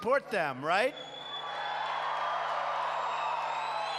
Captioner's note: applause